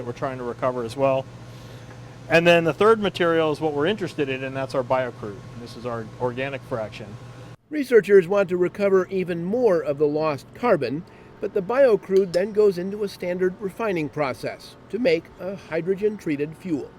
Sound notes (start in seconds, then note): 13.4 voiceover